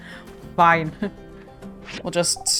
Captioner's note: laughs